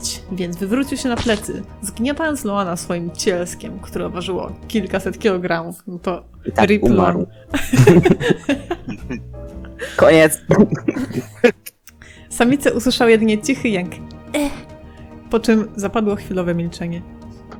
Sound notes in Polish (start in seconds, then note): 7.5 śmiech; 10.4 śmiech